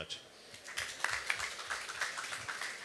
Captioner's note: applause